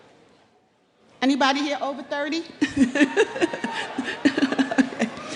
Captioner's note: laughing